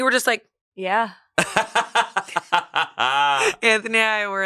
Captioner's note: laughs